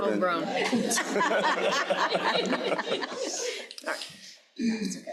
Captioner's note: crowd laughing